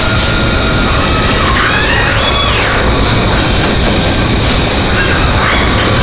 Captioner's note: engine revving; tires screeching; engine revving